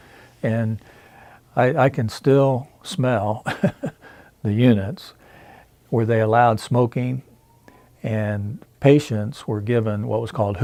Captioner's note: chuckles